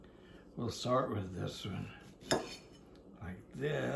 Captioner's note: knife clutters